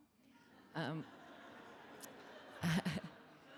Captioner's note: laughs; audience laughing